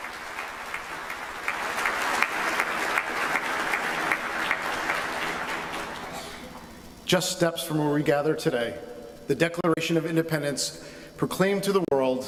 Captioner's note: applause